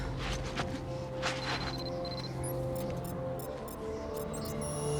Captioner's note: device beeping